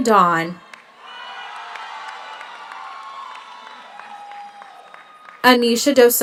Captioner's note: audience cheers; audience applauds